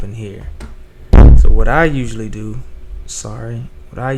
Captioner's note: feedback